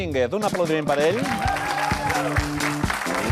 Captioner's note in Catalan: aplaudiments